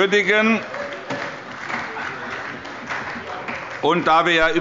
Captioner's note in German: Allgemeiner Beifall